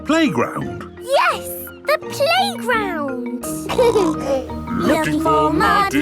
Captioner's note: snorting; laughter